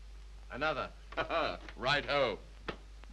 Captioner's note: chuckles